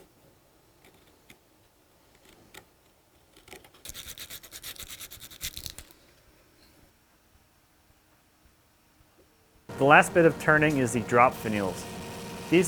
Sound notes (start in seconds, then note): 2.1 wood scraping; 3.8 gentle sanding